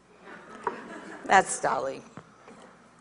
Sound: audience laughs

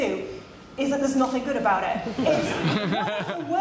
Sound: laughter

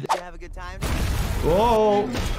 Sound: building explodes

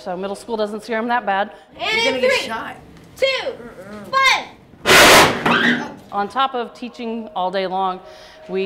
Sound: combustion

